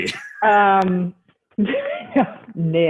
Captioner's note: laughing